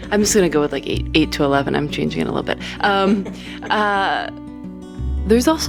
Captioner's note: laughter